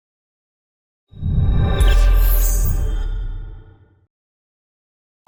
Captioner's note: logo whooshing